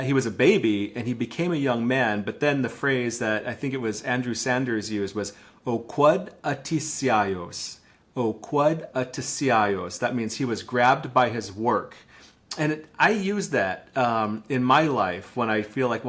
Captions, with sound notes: he was a baby, and he became a young man, but then the phrase that I think it was Andrew Sanders used was, (speaking in Lushootseed language). That means he was grabbed by his work. And I use that in my life when I feel like,